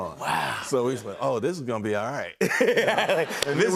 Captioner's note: laughter